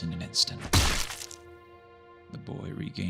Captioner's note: bloody squelch